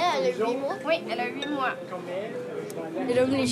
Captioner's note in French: conversations ambiantes